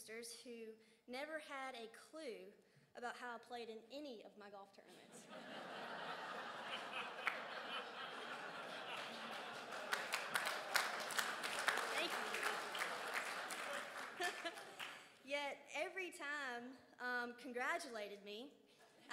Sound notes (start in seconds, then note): 5.0 crowd laughs; 10.5 crowd applauds